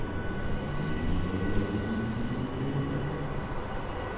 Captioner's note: traffic humming